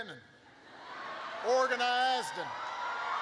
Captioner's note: laughter